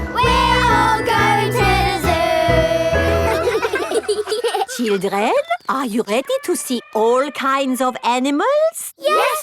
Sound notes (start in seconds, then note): 4.0 children laughing